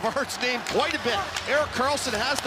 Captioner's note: cheering